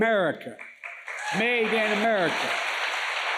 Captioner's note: applause